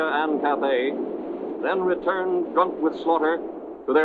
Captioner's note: cannons blasting